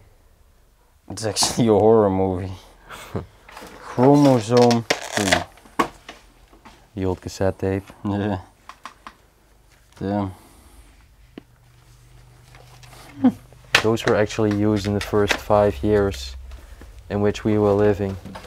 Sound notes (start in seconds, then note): 2.8 chuckles